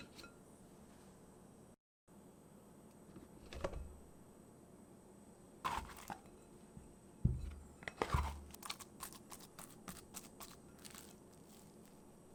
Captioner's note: folding